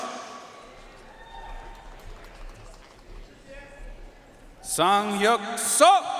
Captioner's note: audience cheering and applauding